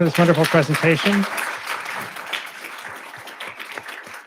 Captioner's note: audience cheers